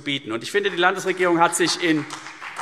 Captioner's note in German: Beifall CDU und BÜNDNIS 90/DIE GRÜNEN